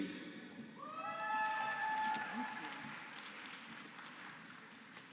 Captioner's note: applause